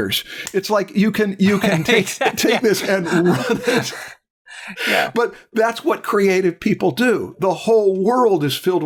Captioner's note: laughter